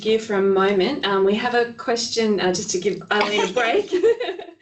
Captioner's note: laughing